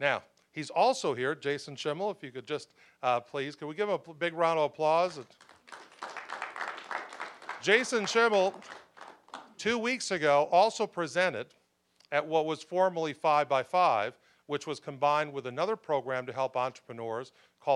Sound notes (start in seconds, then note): 5.1 applause